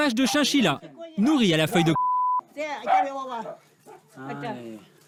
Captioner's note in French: bip